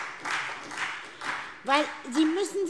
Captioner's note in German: Beifall SPD